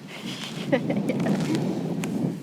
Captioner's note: laughs